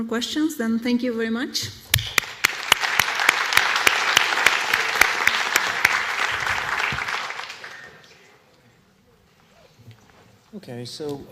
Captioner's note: applause